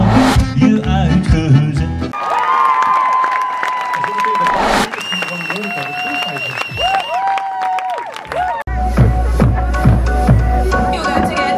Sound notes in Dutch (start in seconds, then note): 5.4 applaus